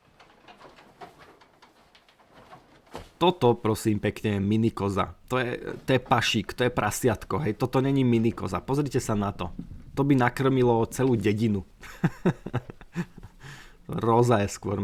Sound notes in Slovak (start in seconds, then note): 11.7 smiech